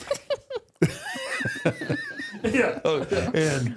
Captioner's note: all laughing